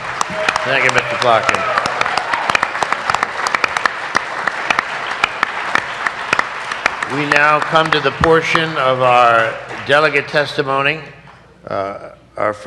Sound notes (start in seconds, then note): 3.2 cheers and applause